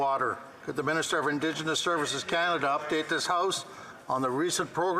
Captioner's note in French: voix de l'interprète